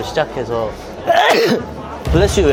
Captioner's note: achoo!